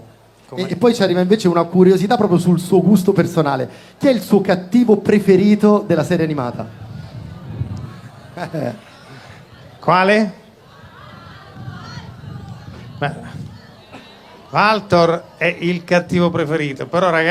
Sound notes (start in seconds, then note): 7.9 crowd